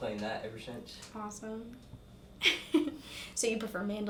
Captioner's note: laughs